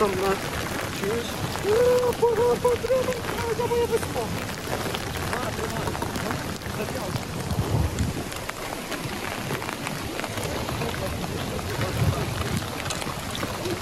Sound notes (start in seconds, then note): 1.8 the loud sound of rain